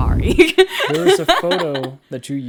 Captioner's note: laughs